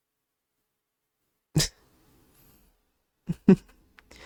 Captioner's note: stifled laugh